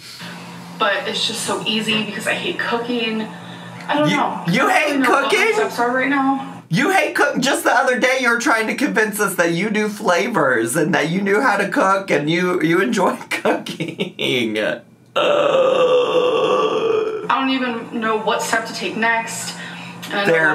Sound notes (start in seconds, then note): 13.4 laughs; 15.1 groans